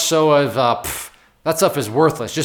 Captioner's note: blows air between lips forcefully